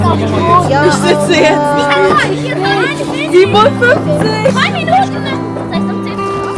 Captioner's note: speaking German